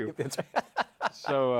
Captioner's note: laughs